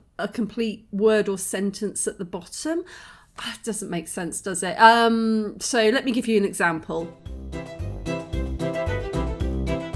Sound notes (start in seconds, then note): 3.3 sigh; 7.2 fairground music